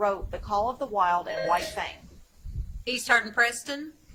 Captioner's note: buzzer chimes